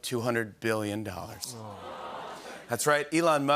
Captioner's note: audience "Awws"